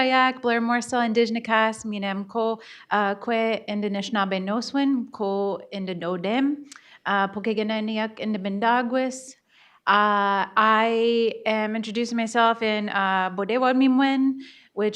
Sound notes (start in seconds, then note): 0.5 speaking in Bodéwadmimwen